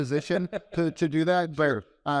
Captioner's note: laughs